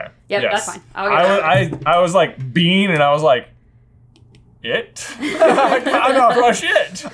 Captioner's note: laughter